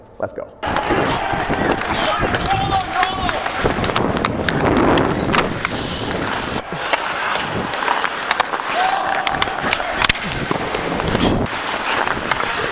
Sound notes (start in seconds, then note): 2.0 players cheering; 4.4 skates crackling; 4.4 sticks clashing